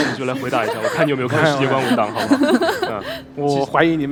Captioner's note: laughs